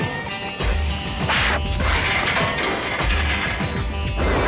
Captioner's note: metal clanging; upbeat music